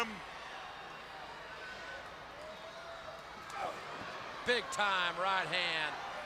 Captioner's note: crowd chatters